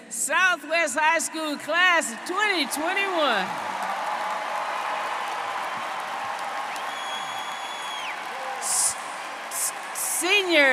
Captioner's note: applause